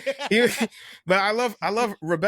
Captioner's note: laughter